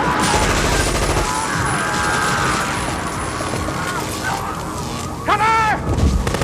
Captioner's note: machine gun firing; electricity crackling; guard screams